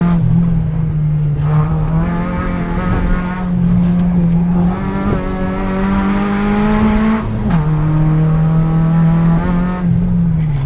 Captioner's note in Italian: rombo di motore